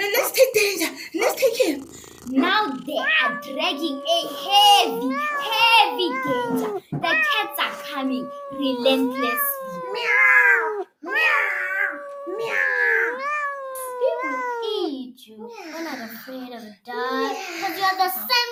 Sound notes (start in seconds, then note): 10.5 cats meow in the background